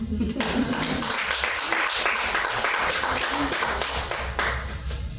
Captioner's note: audience laughing and clapping